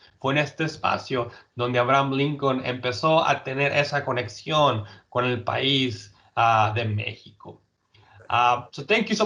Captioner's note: speaking in Spanish